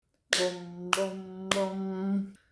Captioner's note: clapping